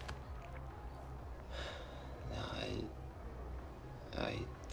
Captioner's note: sighs